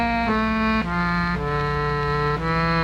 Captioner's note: none